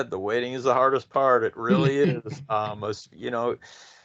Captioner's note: laughing